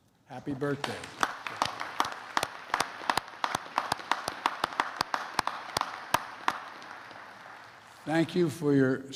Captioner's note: applause